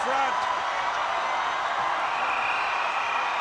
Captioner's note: crowd roars